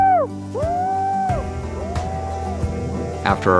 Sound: echo

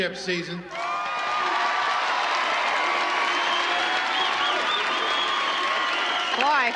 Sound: all applauding; all cheering

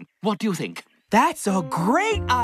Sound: none

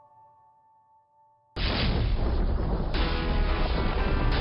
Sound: thunder rolling; rock music

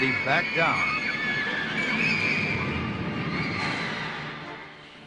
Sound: people screaming

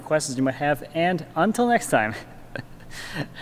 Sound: laughs

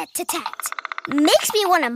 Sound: woodpecker pecking

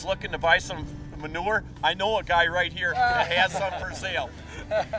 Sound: laughing

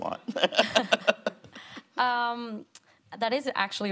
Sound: presenter laughing

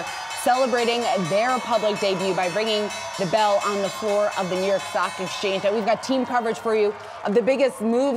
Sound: bell ringing

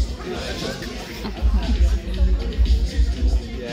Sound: laughter

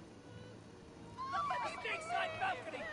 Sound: screaming

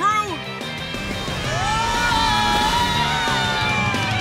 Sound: screaming

